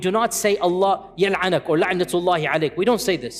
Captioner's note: Arabic